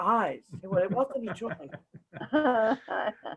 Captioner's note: chuckle